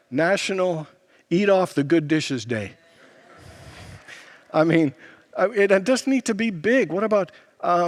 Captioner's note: congregants laugh